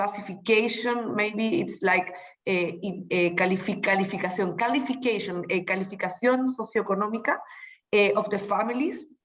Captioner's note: speaking spanish